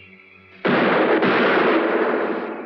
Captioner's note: gunshots